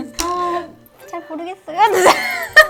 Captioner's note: cracks up